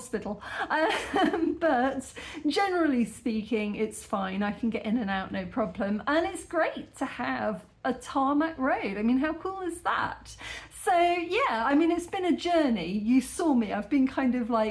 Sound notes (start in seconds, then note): 0.7 laughing